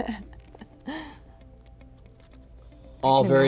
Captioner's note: laughs